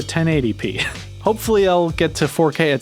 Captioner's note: laughing